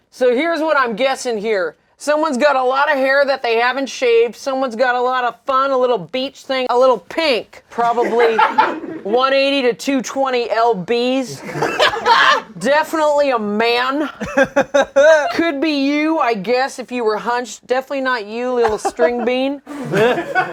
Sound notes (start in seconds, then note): 11.3 laughs; 20.3 laughter